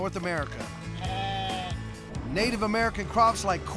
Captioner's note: sheep bleating